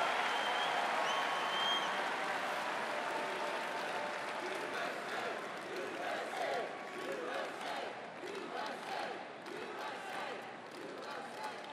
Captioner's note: cheering and Applause